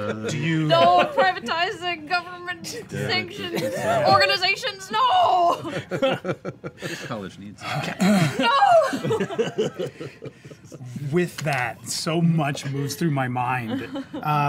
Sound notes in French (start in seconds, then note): 8.1 rires